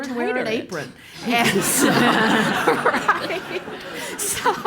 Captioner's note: laugh